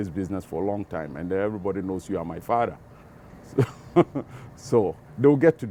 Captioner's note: laughs